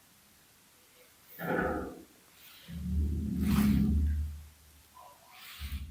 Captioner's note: deep growl-like sound